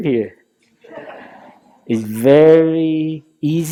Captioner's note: laughter